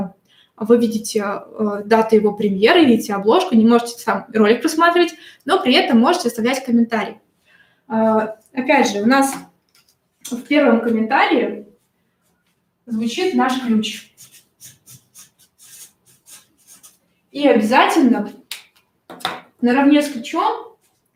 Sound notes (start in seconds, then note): 13.1 скрежет маркера по бумаге